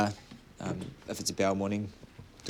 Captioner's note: none